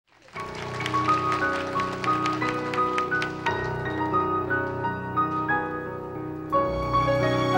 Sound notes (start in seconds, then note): 0.0 audience applauding; 1.8 gentle music